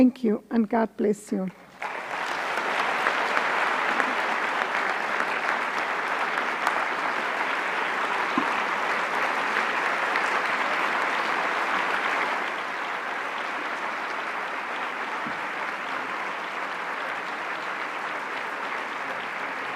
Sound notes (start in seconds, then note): 6.6 applause